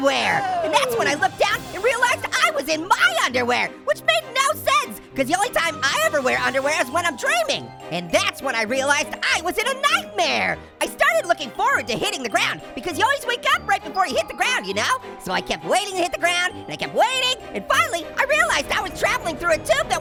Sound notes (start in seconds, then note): none